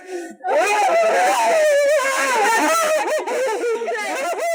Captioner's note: weeping, again